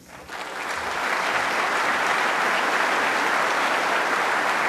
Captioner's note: applause